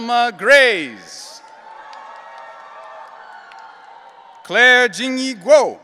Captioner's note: audience cheering